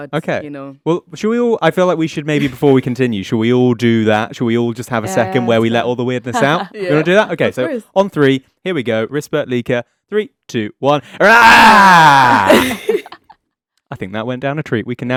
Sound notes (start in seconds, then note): 11.1 all scream; 12.4 all chuckle